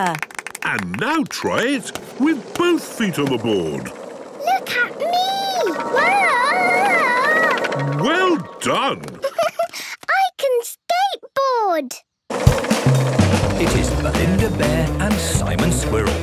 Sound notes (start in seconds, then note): 8.9 giggles